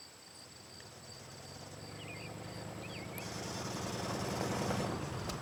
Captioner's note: vehicle approaching